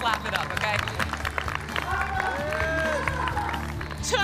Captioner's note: crowd applauding